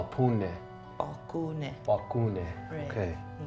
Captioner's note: Baratunde speaking foreign language; speaking foreign language; Baratunde speaking foreign language